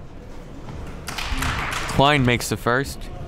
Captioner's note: crowd clapping